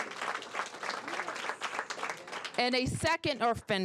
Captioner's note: applause